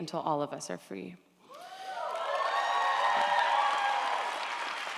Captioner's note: audience applauds & cheers